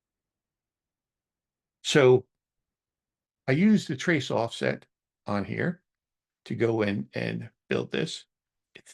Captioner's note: silence